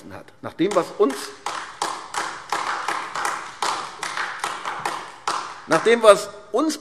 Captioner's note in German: Beifall AfD